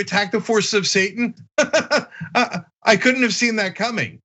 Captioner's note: laugh